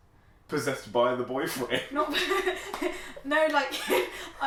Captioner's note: laughs